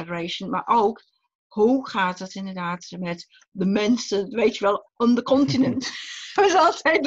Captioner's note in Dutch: lacht